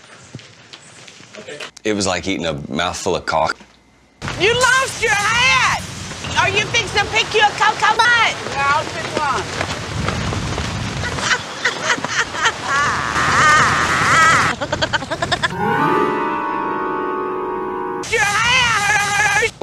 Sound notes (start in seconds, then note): 12.7 Paula laughing in both directions; 14.2 Paula giggling